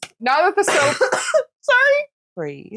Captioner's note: rude coughing